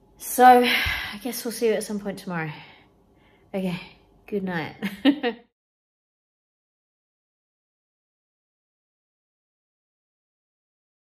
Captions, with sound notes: So I guess we'll see you at some point tomorrow. Okay. Goodnight. [chuckles]